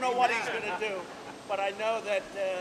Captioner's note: laughter